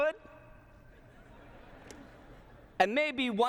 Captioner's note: laughter